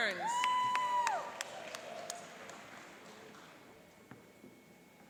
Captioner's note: cheering and applauding